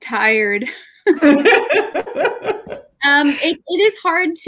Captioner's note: laughing